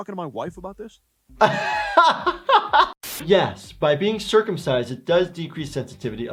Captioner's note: laughing